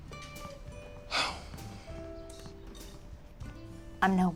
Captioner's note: sighs